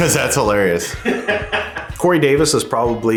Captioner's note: chuckles